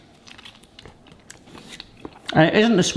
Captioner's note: munches pineapple